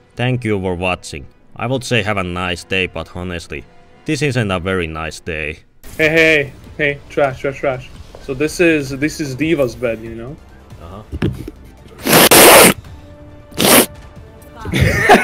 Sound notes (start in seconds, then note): 12.0 sniff